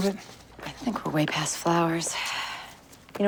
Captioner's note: sighs